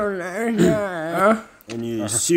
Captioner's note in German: räuspert sich